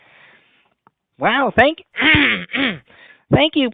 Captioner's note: clears his throat